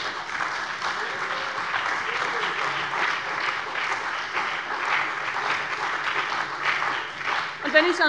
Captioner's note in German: Beifall bei der CDU und dem BÜNDNIS 90/DIE GRÜNEN